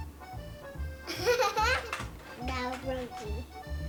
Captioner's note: laughing